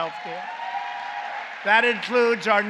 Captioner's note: applause